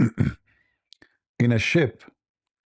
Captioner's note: berdehem